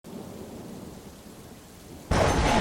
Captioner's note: rain